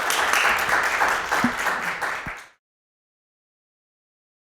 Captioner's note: audience applauding